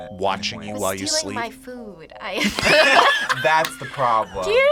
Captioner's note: group laughs